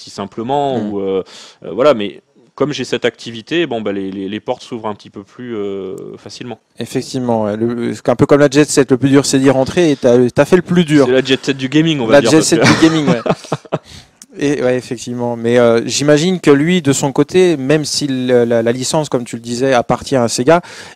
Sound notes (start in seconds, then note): 12.2 laughs